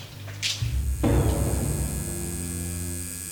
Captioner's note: tattoo Machine Buzzing